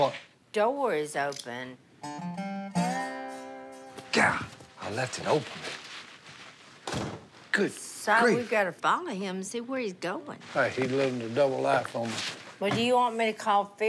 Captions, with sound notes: That door is open. God! I left it open. [door closes] Good grief! Si, we've gotta follow him, see where he's going. Hey, he's living a double life on me. Well, do you want me to call Phil?